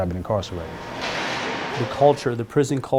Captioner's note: door closes